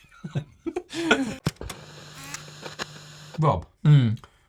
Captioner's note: guys laughing; TV screen hissing